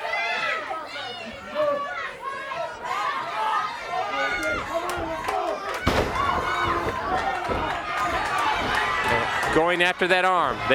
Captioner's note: crowd chatter